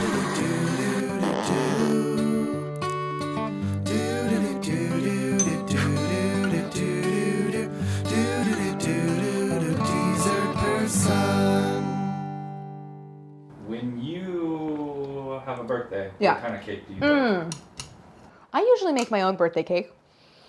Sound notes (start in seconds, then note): 5.4 bell rings; 6.8 upbeat music